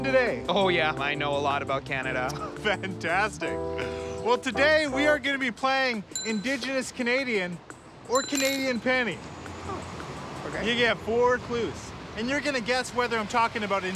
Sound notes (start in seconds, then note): 2.2 laughs